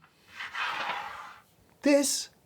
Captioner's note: weight sliding